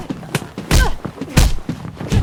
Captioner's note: grunt